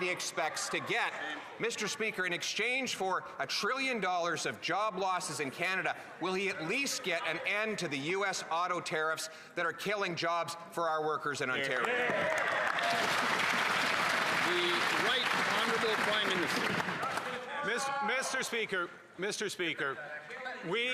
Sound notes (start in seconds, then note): 17.2 applause